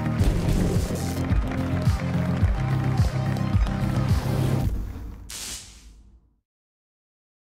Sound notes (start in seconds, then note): 3.1 applause; 5.2 electricity arc